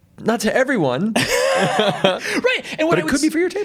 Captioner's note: both chuckling